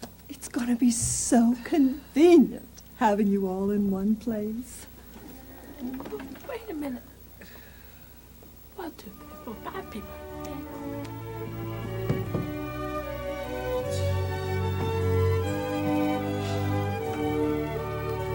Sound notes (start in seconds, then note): 7.4 sigh